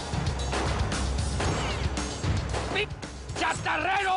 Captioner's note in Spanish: Disparos